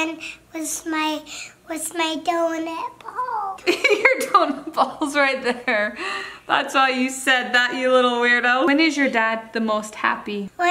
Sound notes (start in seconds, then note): 3.4 laughing